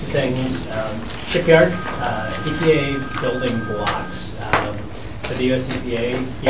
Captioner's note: phone ringing